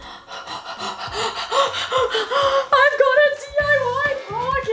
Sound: laughs; disco dance music

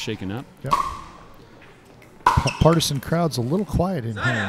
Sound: ball bouncing

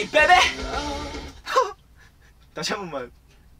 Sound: haha

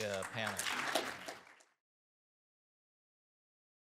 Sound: crowd applauding

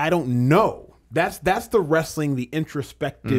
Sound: none

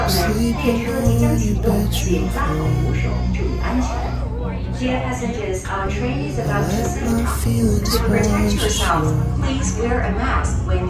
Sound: train announcement

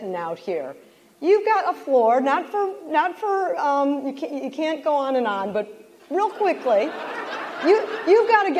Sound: laughter

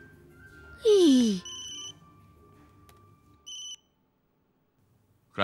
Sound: phone ringing

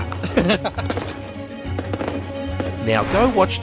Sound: laughing loudly; fireworks exploding loudly

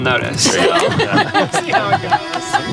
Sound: laughing

